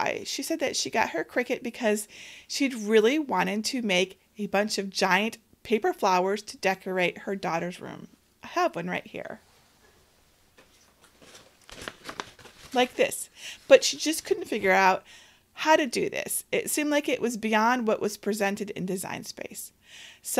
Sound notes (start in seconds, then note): 10.5 paper rustles